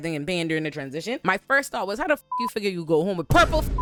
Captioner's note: beep